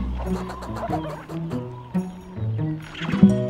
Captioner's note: squirrel chattering